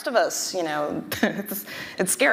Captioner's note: chuckling